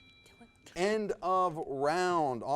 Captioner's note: timer dings